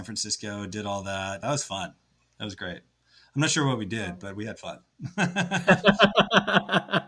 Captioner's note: laughs